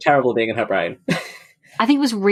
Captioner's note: laughs